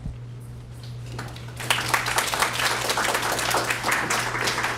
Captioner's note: applause